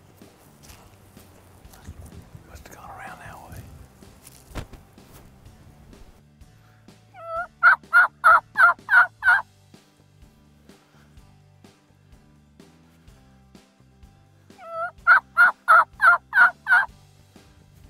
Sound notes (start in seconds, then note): 7.1 turkey sounds